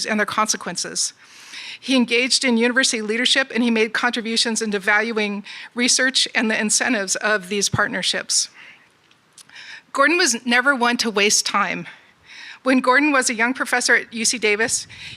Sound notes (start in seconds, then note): none